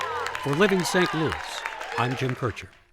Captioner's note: audience cheering